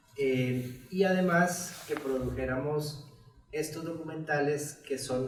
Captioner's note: speaks in Spanish